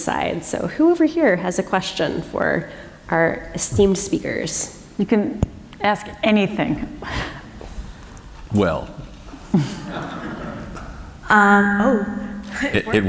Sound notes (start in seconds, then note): 9.5 chuckle; 9.5 laughter